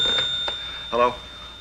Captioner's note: telephone ringing